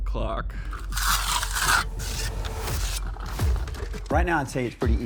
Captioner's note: metal scrapes